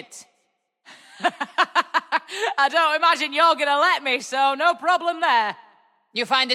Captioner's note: laugh